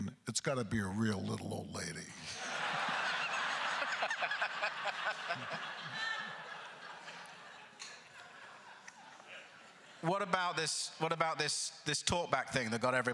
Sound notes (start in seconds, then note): 2.2 crowd laughter; 2.3 laughing; 6.4 laughter continues